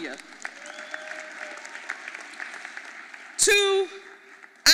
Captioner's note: audience applauding